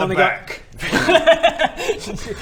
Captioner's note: laughs